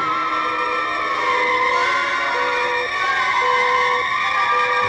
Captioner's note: satellite beeping